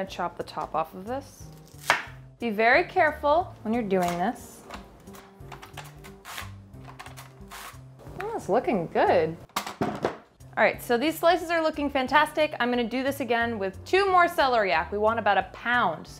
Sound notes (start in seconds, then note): 1.6 knife chops; 5.6 mandoline slicing